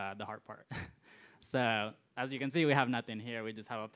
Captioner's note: laughs